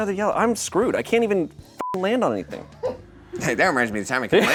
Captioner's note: beep